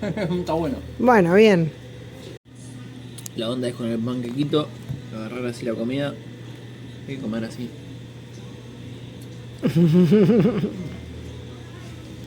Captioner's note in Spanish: risas